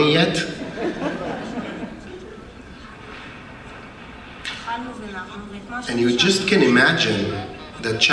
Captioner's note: laugh